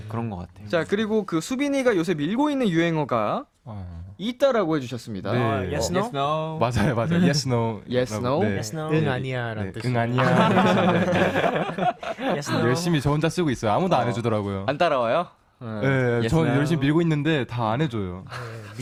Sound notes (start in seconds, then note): 8.7 repeats in Korean